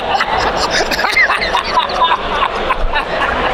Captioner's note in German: lacht